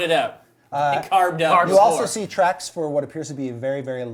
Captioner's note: none